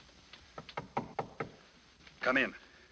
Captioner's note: knocking on door